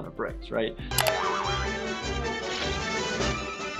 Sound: mouse clicks

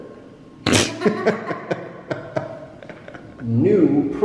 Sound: both laughing

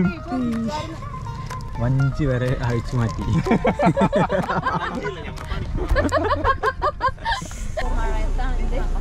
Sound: laughing

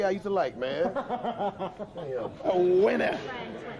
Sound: laughs

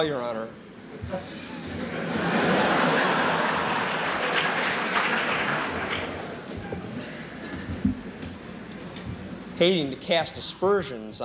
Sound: laughter

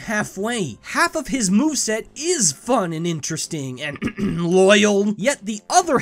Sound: clears throat

